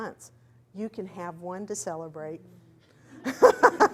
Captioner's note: laughs